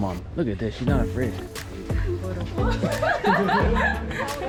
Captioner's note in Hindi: हँसी